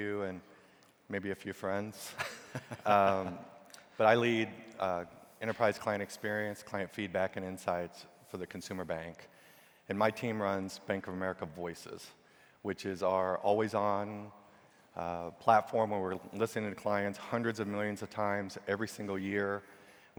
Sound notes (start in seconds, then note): 2.0 chuckling